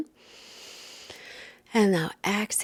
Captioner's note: inhales deeply